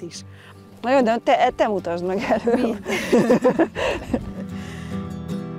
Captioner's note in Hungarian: nevetés hangja